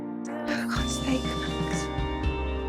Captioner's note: voiceover